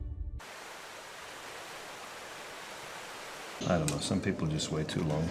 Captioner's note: rustling water